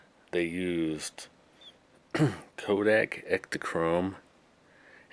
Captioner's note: clears throat